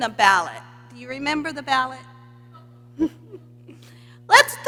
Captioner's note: laughs